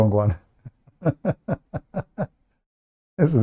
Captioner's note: Ketawa